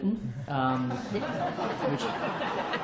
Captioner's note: laughter